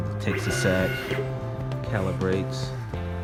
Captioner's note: Glowforge whirs